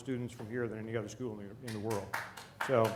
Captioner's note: applause